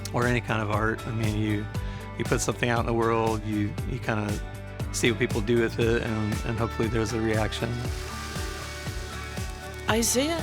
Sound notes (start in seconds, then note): 7.6 coffee beans tinkling